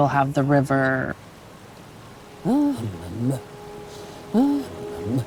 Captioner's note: water rushing